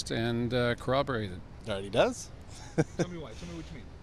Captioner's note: chuckling